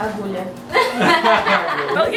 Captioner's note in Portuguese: Risadas